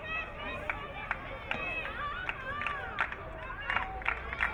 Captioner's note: crowd cheering; crowd clapping